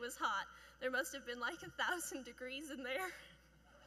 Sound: chuckling

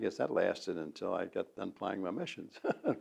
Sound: laughs

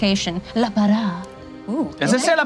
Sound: speaks in foreign language

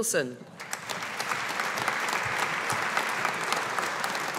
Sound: audience applauding

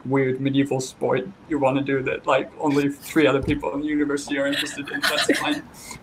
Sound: & I laugh

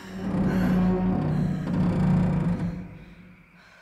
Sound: bridge creaks

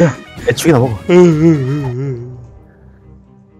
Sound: cries

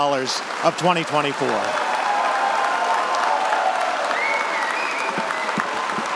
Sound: audience applauding; audience cheering

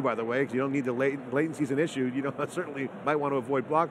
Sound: chuckles

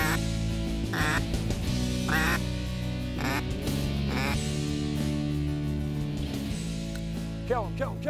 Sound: duck calls and music

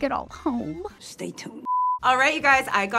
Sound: TV beeps

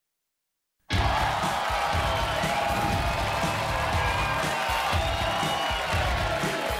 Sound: audience cheering; edgy music

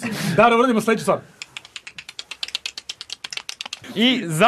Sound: clicking sounds

